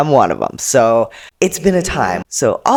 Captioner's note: echoing